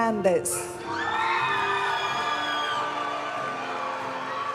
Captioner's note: audience cheering and applauding; graduation music